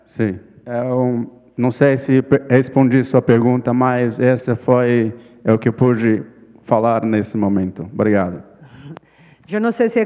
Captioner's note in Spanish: ponente habla en portugués